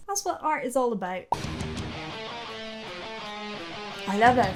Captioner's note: uptempo grungy rock music; air pops